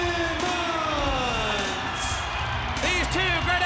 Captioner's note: audience cheers